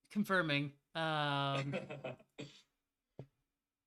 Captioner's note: chuckles